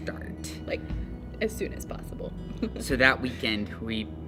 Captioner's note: chuckles